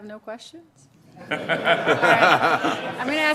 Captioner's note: laughing